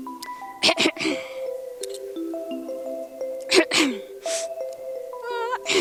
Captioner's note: chorus maiden clears her throat